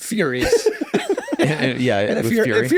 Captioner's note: laughing